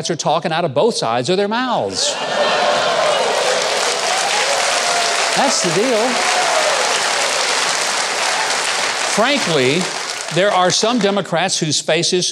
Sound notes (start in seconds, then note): 2.0 audience laughing; 3.8 audience applauding